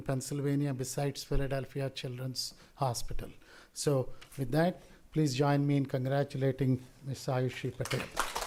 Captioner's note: applause